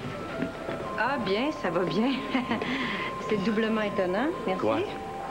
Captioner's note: Rire